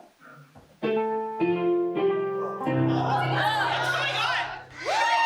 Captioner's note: ding dong bing bong